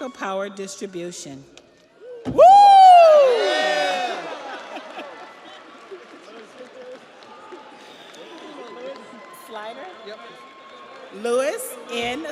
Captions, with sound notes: Jude Cameron Brost, Electrical Power Distribution. (audience applauds) (audience cheers)